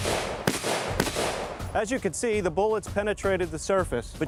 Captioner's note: shooting